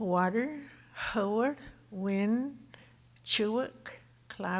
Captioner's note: speaking Tohono O'odham